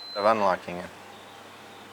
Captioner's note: buttons beep